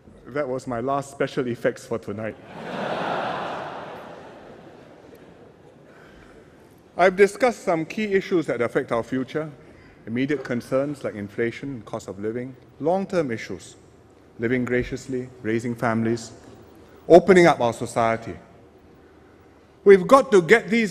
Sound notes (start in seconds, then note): 2.4 laughter